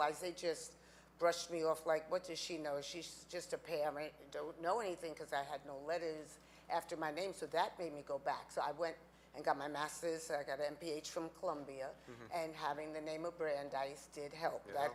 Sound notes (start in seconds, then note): none